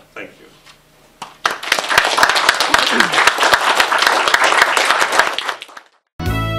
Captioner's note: audience Applauds